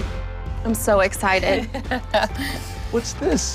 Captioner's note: chuckles